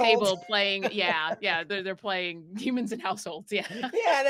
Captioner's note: laughing